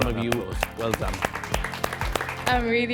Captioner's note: group applauds